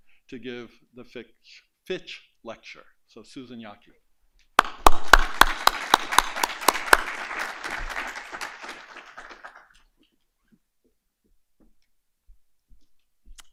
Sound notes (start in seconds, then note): 4.6 applause